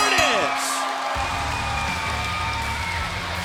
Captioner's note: bell ringing; cheers & applause